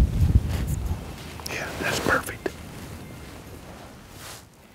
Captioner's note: whispering